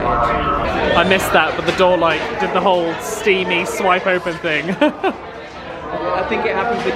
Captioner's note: laughs